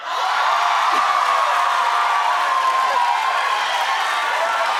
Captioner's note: audience cheering